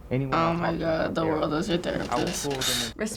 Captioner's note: scoffing